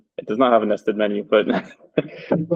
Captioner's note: chuckles